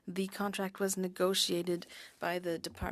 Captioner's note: speaking french